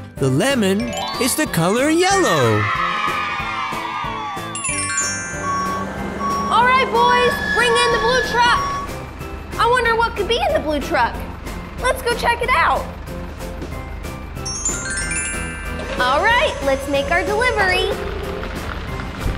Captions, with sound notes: The lemon is the color yellow. [Cheers] Alright boys, bring in the blue truck! I wonder what could be in the blue truck. Let's go check it out. Alright, let's make our delivery!